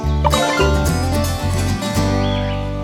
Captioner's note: notification